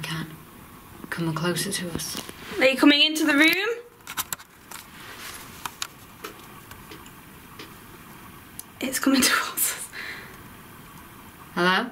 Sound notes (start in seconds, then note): 6.2 quiet tapping